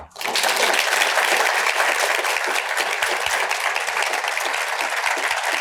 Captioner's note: audience applauds